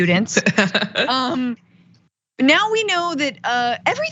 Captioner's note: laugh